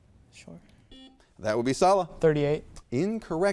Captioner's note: buzzer beeps